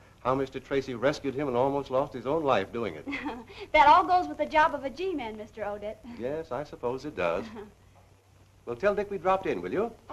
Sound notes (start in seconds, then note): 3.0 chuckles